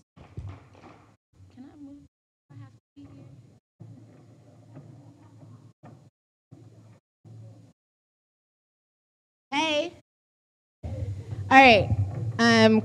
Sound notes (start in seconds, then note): none